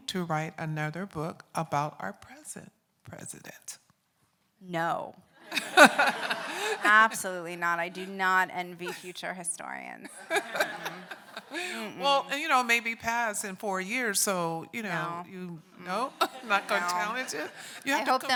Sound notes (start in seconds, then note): 5.5 audience laughing